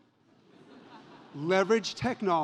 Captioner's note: audience laughs